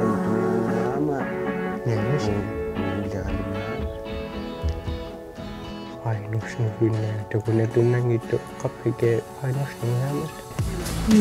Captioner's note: speaking alternate language